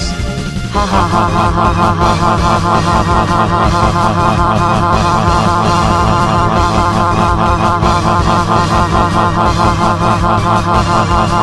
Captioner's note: laughs